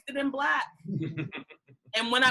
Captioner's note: participants chuckle